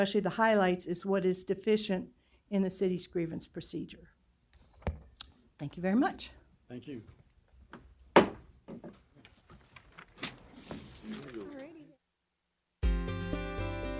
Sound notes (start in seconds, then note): 8.1 gavel banging